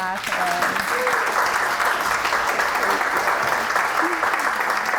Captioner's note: audience applauding